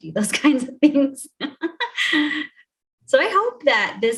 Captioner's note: chuckles